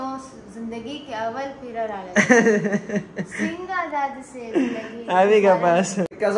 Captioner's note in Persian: خنده